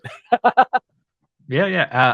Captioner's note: laughter